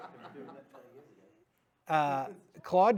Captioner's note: laughter